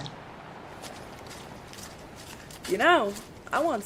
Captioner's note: footsteps